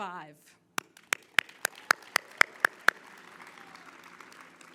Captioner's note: all clapping